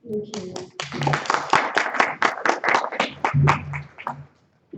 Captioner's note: applause